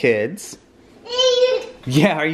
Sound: baby babbling

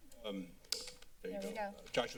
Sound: clicking sound

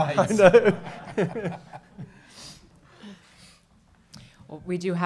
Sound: audience laughing

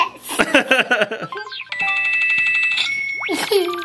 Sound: laughs

